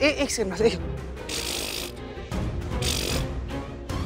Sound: sputtering

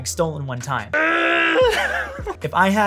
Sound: groaning

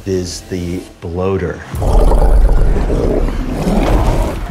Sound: bloater growls, gurgles

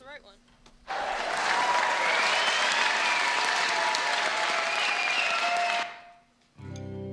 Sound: applause sample plays

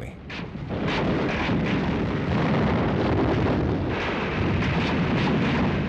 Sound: guns firing and bombs exploding

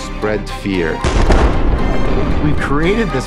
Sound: explosion

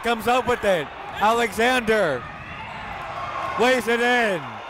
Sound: crowd cheering

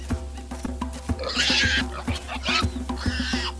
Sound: warthog squealing

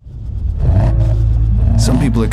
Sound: engine revving

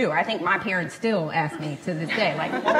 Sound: laughs

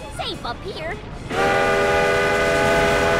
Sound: steam engine blowing

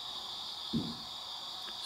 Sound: thud!

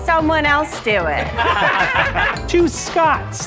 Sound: all laughing

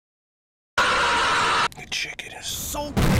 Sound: screaming

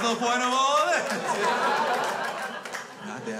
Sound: crowd laughs

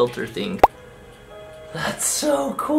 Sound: bubble pops

